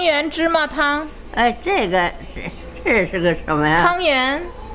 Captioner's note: speaking Chinese; grandma speaking Chinese